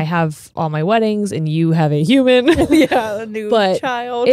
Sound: laughs

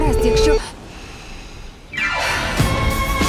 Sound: inhales sharply, exhales

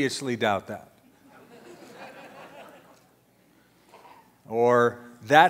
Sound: audience laughter

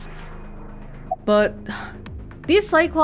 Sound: exhales

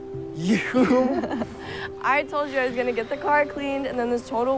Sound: chuckling

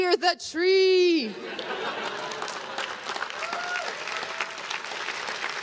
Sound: crowd claps and cheers

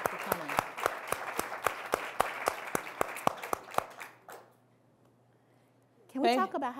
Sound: applause

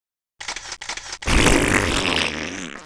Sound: excited zombie grunts

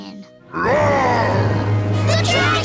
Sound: roaring

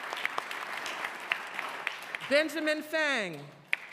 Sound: applause

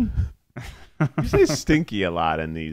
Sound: laughing

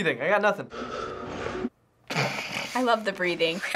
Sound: heavy breathing

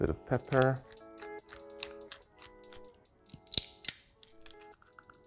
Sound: pepper grinder turning

